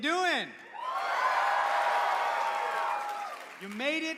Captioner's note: cheering